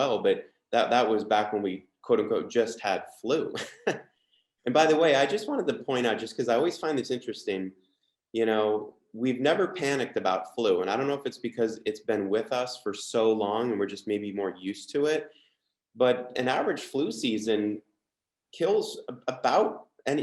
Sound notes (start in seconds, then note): 3.5 chuckles